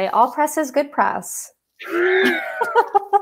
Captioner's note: laughter